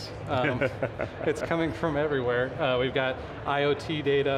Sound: laughs

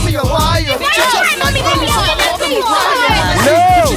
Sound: crowd questioning

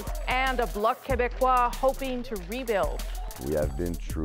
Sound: speaking French

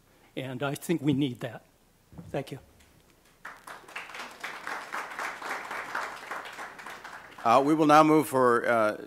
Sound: applause

